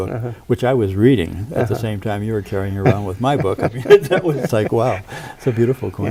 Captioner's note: chuckles